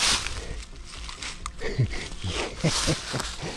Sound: laughs

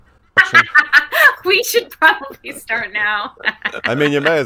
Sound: laughing

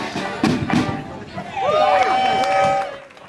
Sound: applause

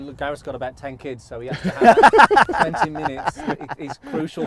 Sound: all laugh

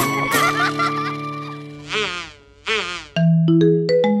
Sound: laughing

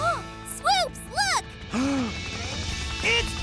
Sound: gasps

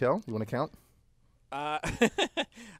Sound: laugh

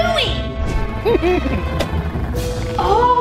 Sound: germ giggling

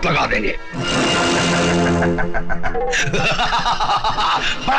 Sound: laughing

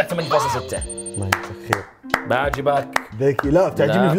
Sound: claps

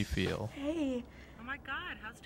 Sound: crying

